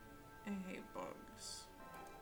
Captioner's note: mumbles sadly